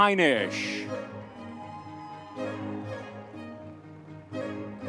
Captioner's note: audience members cheering